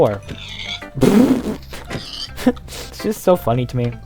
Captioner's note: labial laughter, chuckles